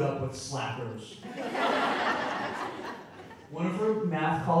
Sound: audience laughing

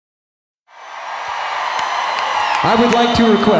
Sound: audience cheering

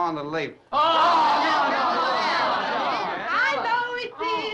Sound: all chattering

